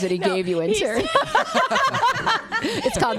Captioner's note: laughs